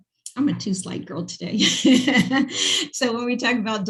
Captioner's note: laughing